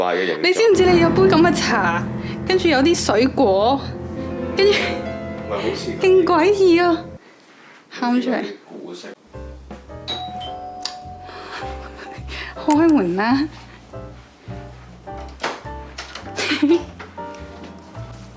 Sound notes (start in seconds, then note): 10.1 doorbell rings; 10.8 laughing; 16.4 me laughing